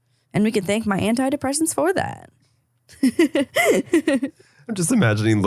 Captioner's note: giggling